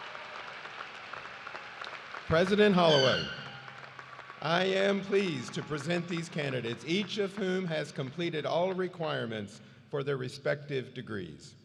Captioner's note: cheers and applause